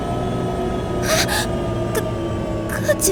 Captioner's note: gasp